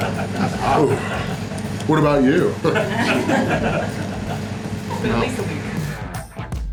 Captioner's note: crowd laughter